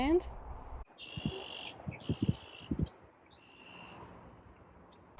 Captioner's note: birds chirping